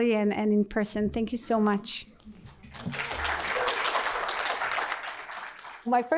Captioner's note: applause